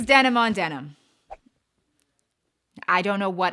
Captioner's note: swooshing